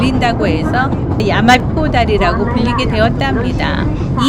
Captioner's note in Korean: 메아리